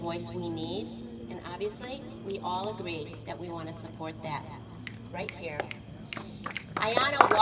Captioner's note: audience snapping fingers